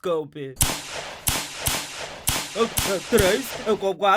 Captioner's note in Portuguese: Ouvem-se seis tiros